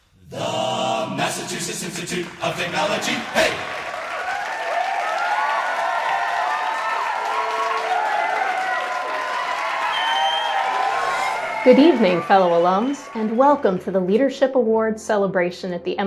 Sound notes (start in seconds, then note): 3.7 applause